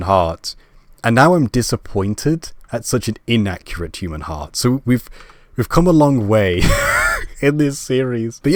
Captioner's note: laugh